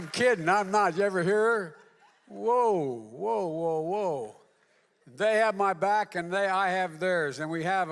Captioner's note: applause